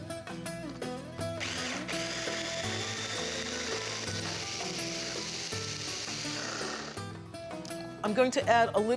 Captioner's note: pulsing